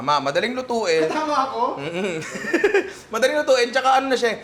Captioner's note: laughs